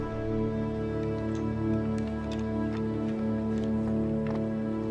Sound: wood knocking

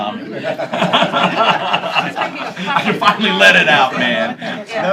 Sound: laughter

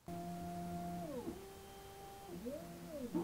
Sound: whirs

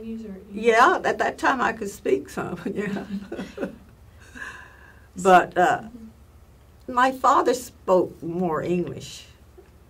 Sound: laughs

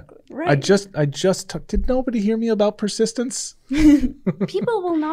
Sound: chuckles

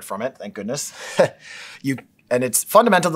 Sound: laugh

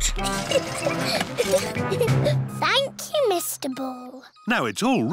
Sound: giggling

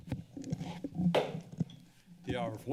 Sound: hits gavel

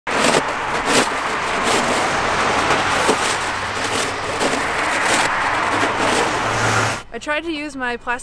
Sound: scraping sounds

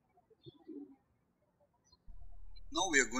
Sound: birds chirping

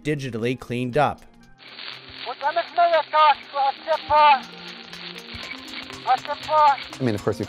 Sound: man speaking in Yurok

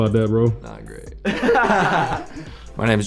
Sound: laughter

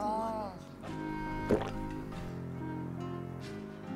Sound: gulp

